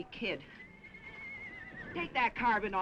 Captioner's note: horse neighing